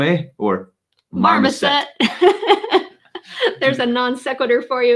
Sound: laughing

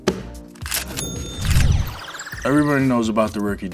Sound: ka-ching

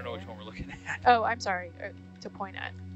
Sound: man chuckling

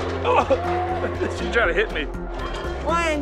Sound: laughs

